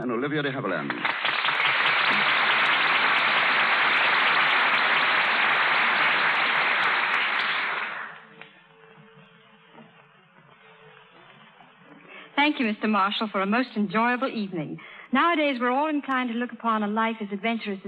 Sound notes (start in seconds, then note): 0.7 applause